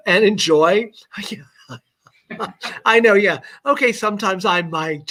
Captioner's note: laughter